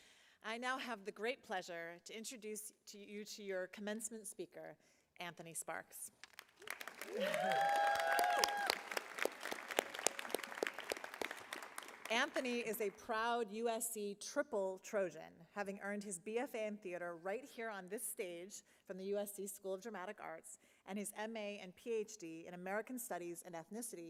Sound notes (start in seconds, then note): 6.2 applause